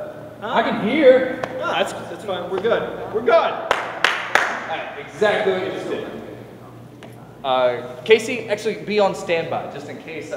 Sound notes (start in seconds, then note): 3.6 clapping